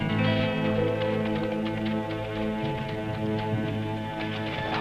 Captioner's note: hooves clopping